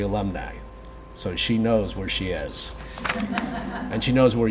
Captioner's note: audience laughs